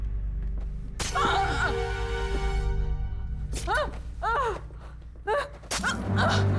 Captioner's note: flesh squelching; Joan gasping; knife stabbing flesh